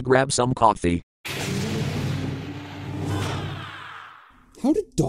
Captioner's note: door closing